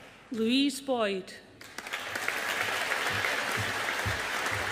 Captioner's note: audience applauding